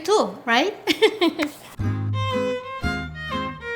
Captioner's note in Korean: 웃음